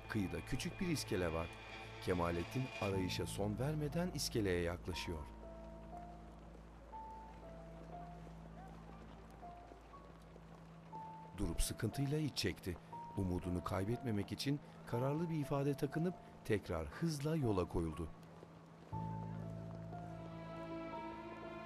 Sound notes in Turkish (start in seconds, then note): 8.2 Ayak sesleri; 14.6 Müzik - Gerilim